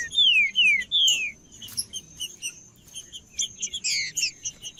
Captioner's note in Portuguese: trinca ferro cantando; trinca ferro cantando